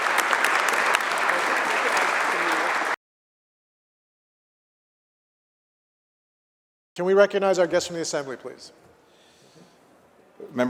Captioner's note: applause